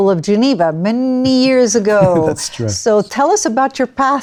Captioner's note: laughs